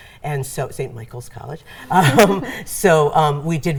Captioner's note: laughing together